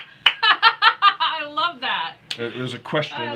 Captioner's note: laughing